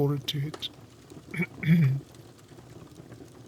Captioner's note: Snape clears his throat